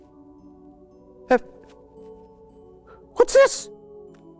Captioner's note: stammers